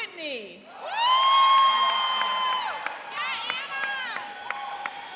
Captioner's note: cheering and applauding